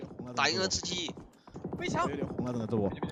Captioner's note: in-game audio